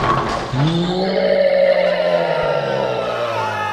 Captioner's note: crash; roar; crowd panic